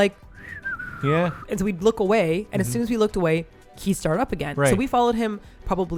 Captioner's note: whisting